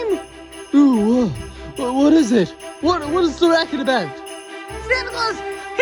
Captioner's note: yawns